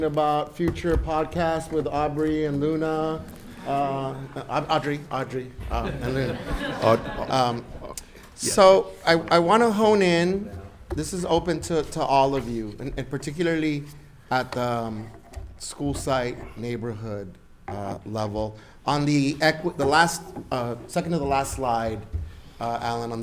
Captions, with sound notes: about future podcast with Aubrey and Luna. (audience laughs) Audrey, Audrey. (audience laughs) And Luna so I wanna hone in, this is open to all of you and particularly at the school site neighborhood level. On the last second to the last slide, Alan,